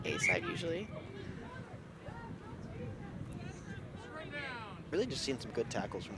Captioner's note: whistle blows